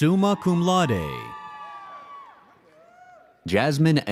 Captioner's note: audience cheers